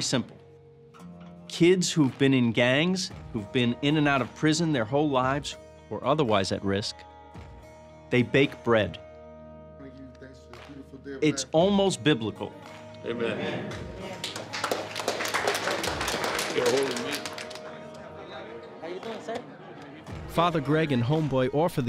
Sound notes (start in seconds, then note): 13.6 applause